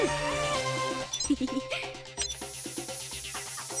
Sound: giggling; beeping; hissing

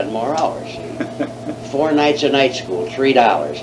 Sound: laughs

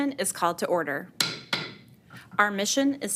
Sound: gavel banging

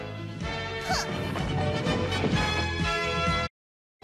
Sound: scoffs

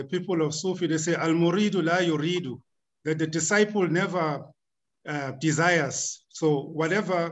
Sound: speaking arabic

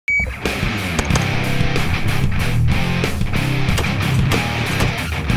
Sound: intense music; guns firing

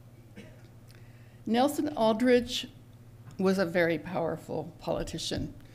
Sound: cough in background

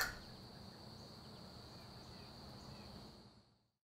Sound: birds tweeting

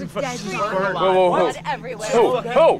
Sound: group talking

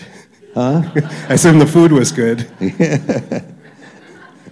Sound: laughter

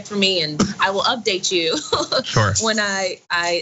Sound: laugh

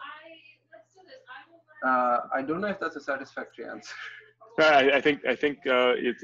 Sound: laughs

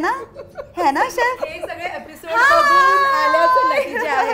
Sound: chuckles

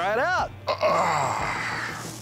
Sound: grunting

